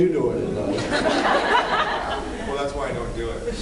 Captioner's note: laughs